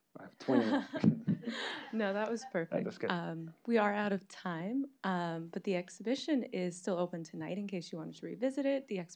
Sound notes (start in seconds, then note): 0.5 audience laughing